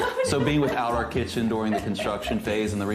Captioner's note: laughs